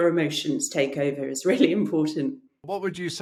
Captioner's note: chuckles